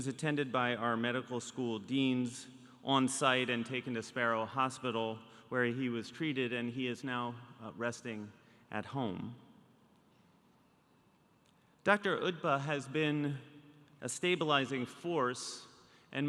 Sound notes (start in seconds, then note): none